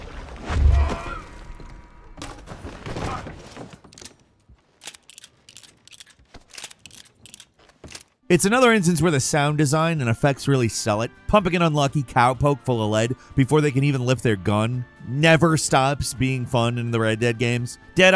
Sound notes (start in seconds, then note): 0.7 enemy groans; 4.8 gun cocking